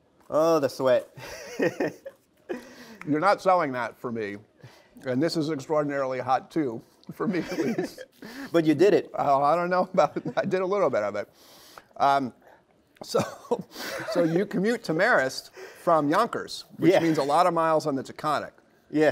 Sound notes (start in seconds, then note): 1.2 laughs; 13.1 laughter